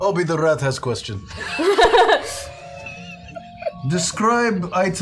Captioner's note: laughter